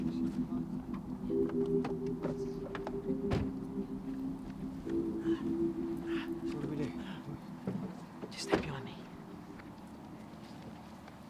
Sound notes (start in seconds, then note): 3.2 car door slams shut